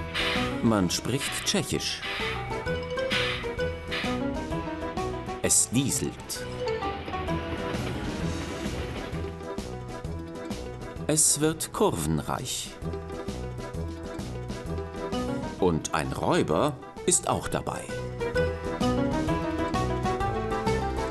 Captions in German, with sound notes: Man spricht Tschechisch. (Zischen) Es dieselt. Es wird kurvenreich. Und ein Räuber ist auch dabei. (Lebhafte Musik)